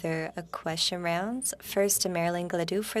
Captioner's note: speaking French